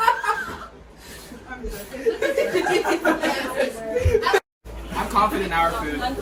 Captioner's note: more laughing